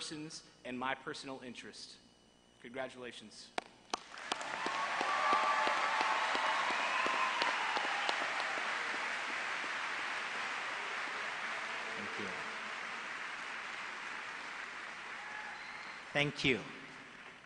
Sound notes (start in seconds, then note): 3.9 applause